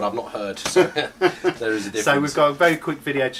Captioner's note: laughing